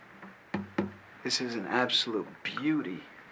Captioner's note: thudding